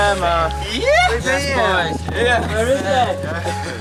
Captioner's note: bikers chatting